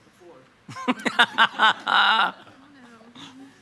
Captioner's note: chairman laughs